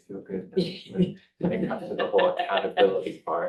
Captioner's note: board members laughing